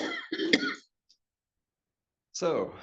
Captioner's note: person coughs